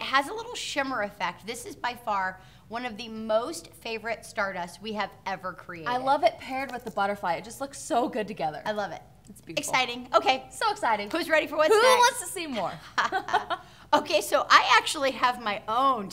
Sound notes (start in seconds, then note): 12.4 laughing